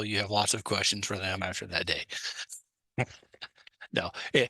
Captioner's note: laughs